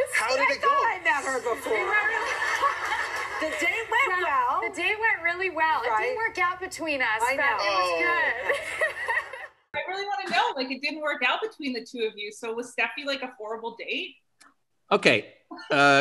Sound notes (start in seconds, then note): 1.2 laughter